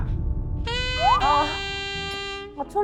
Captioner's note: shy sound effect